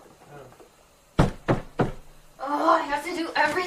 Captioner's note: knock Knock Knock